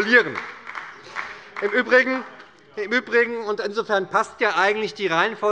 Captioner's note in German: Heiterkeit und Beifall bei der SPD